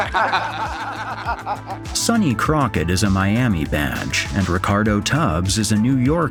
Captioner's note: everyone laughs